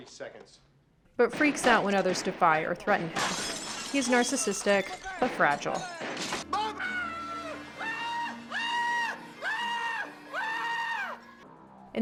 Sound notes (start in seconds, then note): 6.5 frank screaming